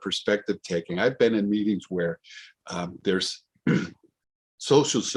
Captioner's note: clears throat